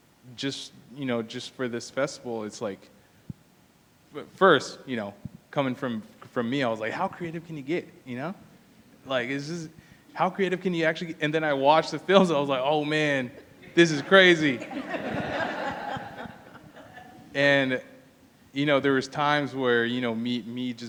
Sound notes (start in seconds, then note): 13.6 laughter